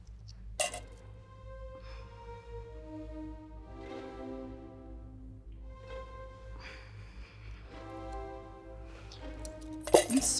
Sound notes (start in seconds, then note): 0.6 coin drops; 3.9 suspenseful music; 9.6 more coins drop